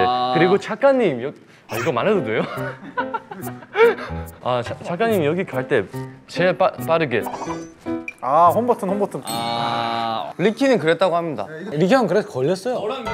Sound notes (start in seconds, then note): 2.6 laughs